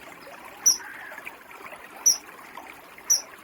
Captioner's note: chirping